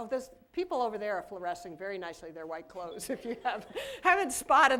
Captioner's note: laughter